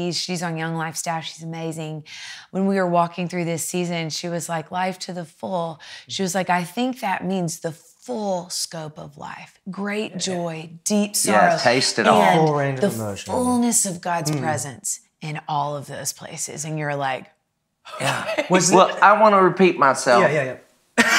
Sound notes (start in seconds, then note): 17.9 giggles